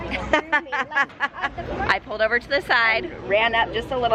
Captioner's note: chuckles